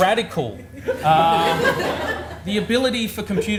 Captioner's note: audience laughs